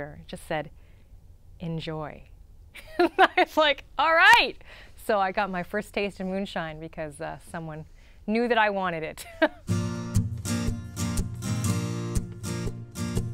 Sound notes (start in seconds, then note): 2.7 laughter; 9.2 laughter; 9.6 guitar strumming